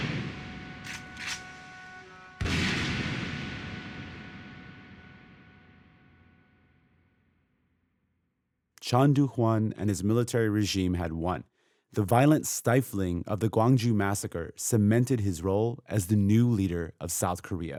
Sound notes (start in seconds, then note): 0.0 soundbite of gunshots